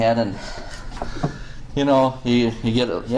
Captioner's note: breathes deeply